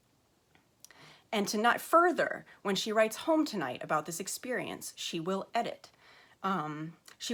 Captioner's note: stutters